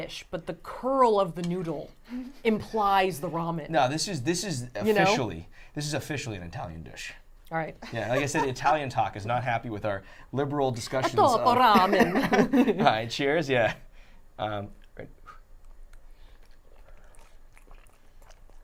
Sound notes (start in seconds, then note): 11.3 speaking in foreign language